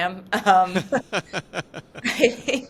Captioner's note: group laughing